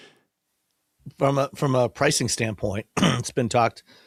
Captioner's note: clears throat